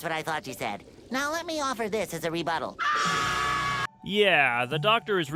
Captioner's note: screams